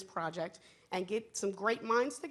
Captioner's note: none